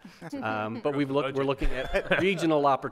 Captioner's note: members laugh